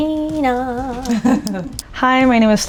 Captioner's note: laughing